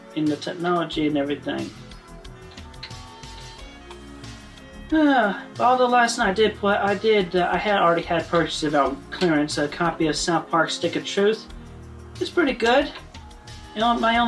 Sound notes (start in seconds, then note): 4.9 sigh